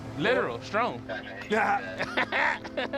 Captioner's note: laughter